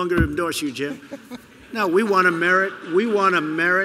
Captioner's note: laughter